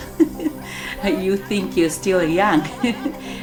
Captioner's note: laughs